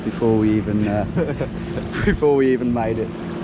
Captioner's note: laughing